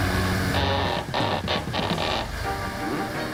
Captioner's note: rope creaking